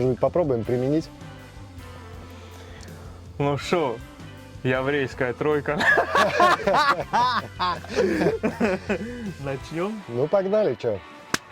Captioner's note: laugh